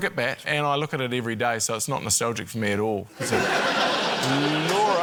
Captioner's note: laughter